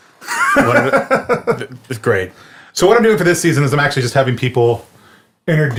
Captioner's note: laughs